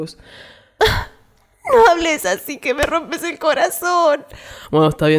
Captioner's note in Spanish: Suspiro